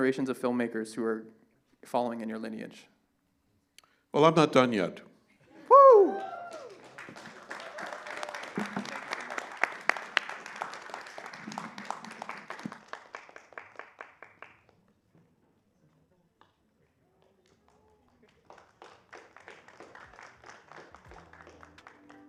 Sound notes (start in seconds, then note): 6.0 applause